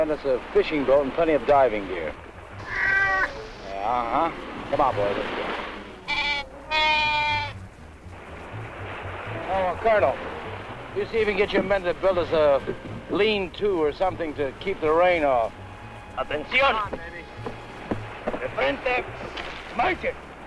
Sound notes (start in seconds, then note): 2.7 Pete meowing; 6.0 Pete baaing; 15.3 Colonel Cabeza speaking in Spanish